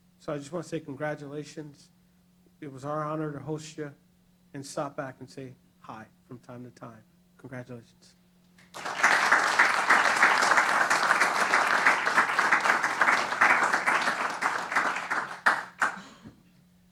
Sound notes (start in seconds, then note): 8.6 applause